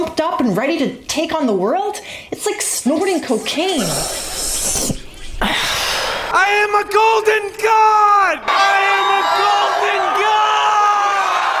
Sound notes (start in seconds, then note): 3.7 sniiiiiiiiiif; 5.3 sigh; 10.1 people cheering